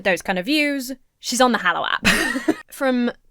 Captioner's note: laughs